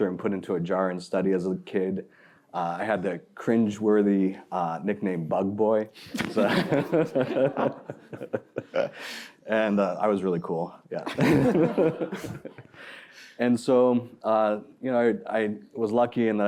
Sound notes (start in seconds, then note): 5.9 laughter